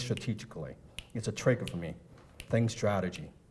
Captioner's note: snapping fingers